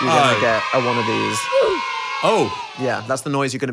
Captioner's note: cheering; groaning noise